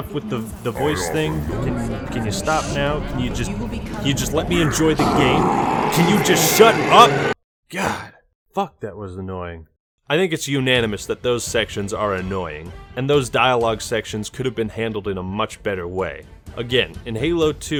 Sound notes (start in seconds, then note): 1.0 Gravemind talks louder; 4.0 graaaaaahhhh